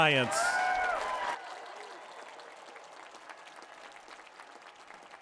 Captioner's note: applause